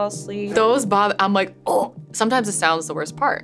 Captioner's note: groans